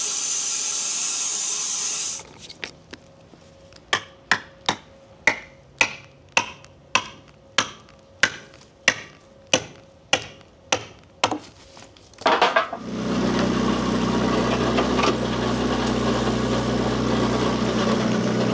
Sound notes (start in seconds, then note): 3.9 mallet thudding; 12.8 loader rumbles